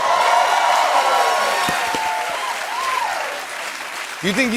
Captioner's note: cheers and applause